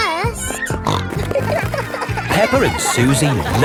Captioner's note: snorting